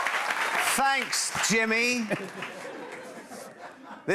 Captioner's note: laughter